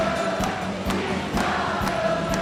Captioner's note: Applauso